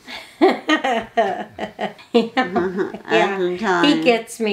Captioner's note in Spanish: Risas